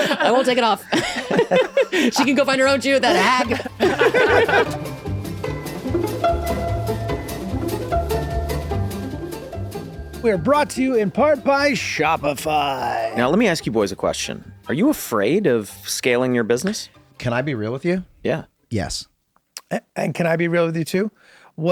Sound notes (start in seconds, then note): 3.0 laughter; 4.0 upbeat music